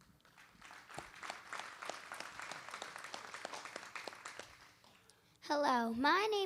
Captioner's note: applause